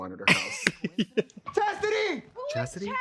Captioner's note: laughs